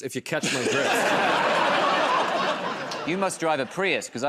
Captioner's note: laughter